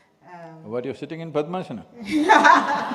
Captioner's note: laughter